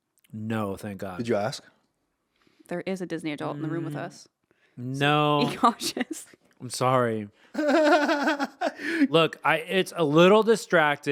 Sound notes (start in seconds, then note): 7.5 laughing